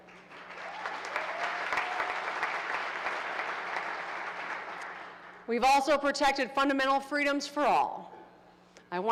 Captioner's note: applause